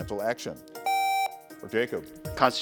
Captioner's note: buzzer beeps